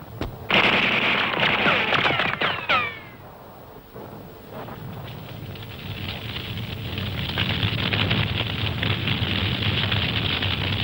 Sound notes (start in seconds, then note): 0.2 gunfire booming; 5.5 fires blazing